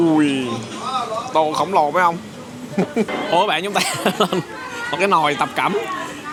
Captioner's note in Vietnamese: tiếng cười